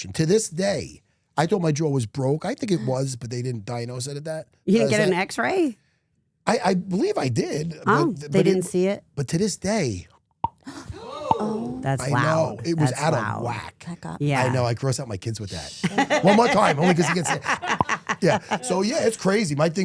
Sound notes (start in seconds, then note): 10.1 clicks his jaw; 11.1 crew gasping; 17.7 clicks his jaw